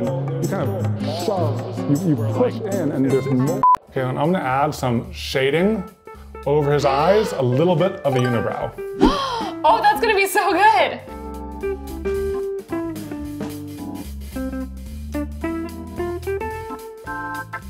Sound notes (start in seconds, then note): 3.6 beep; 10.7 upbeat music